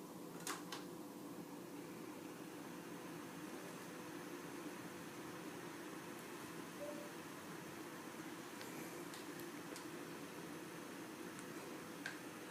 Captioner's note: ffan yn chwythu